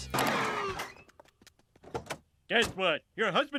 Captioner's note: tires screeching